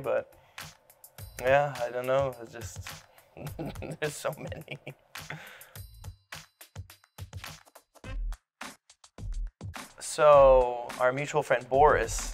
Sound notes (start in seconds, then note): 3.4 laughs